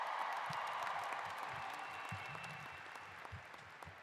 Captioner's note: applause